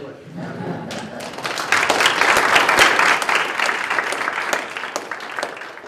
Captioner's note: welcoming Applause